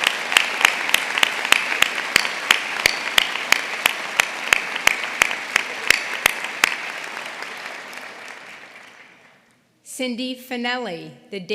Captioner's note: applause